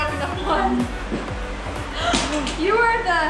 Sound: gasps

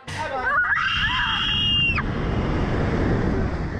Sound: riders screaming

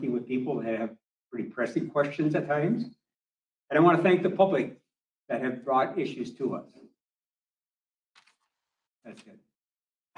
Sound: papers rustle

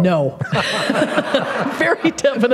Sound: laughter

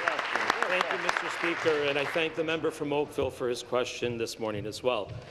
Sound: applause

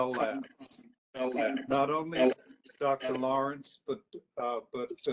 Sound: echoes

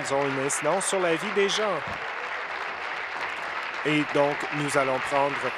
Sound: applause

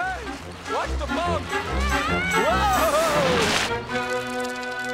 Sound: groaning

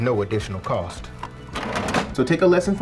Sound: cash register drawer closing

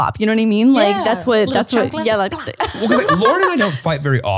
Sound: speaking in foreign language

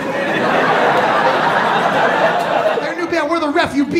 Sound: audience laughing

